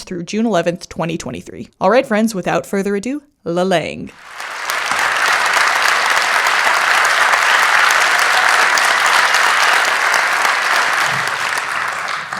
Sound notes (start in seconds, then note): 6.8 theme music fades out; 9.6 audience applause